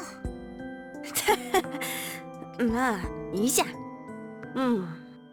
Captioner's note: awkward laugh